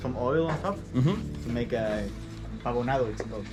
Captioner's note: speaking spanish